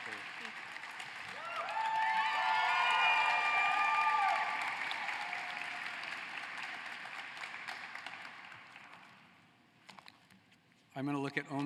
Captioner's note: applause